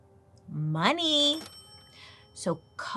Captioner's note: cash register dings